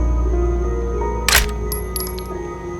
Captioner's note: bullet falls